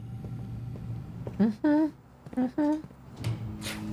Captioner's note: humming